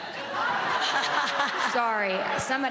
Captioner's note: laughing